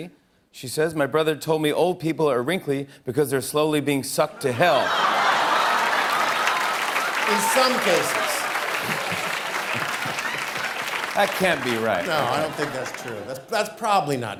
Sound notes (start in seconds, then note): 4.9 laughter and applause